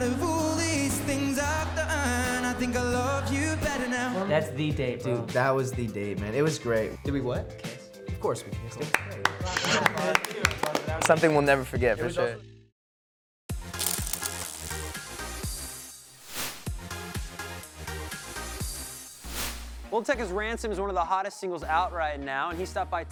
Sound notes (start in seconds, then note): 8.8 friend applauds; 10.5 kiss; 13.6 upbeat music